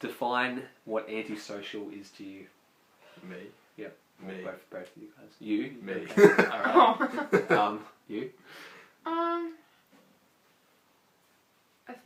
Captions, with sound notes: Define what 'anti-social' means to you. Me, yeah both of you, Me. You? Me. (laughs)